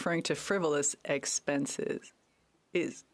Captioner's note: speaking French